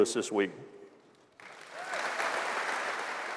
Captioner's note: applause